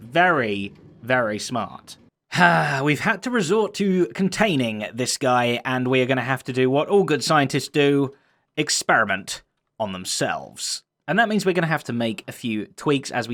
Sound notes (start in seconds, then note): 2.3 sighs